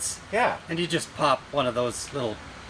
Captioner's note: none